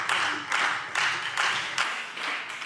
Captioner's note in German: Beifall Freie Demokraten